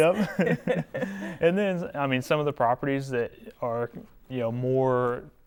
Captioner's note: laughing